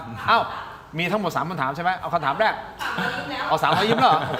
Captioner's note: laughter